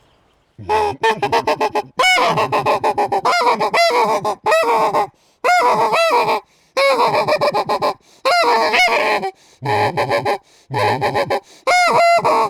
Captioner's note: geese honking